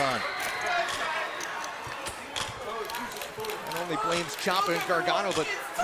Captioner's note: crowd chatter